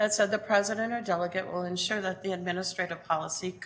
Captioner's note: none